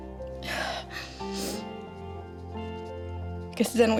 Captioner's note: sniffling